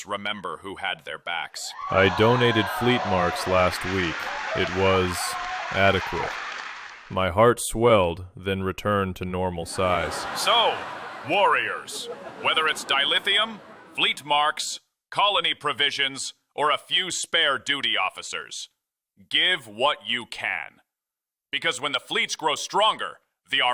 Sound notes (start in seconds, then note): 1.8 audience applause, cheers; 9.6 audience laughter, chuckles